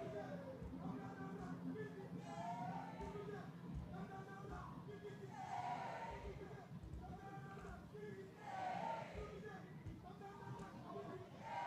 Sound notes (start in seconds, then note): 1.1 performer chanting in foreign language